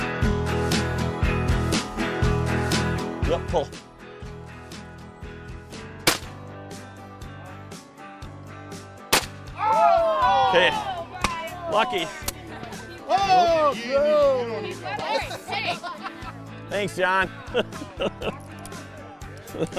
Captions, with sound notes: Yep, pull. (gunfire shot) - [Voiceover] Oh my gosh, he winged it. (gunfire shot) (teammates cheering) - Thanks John.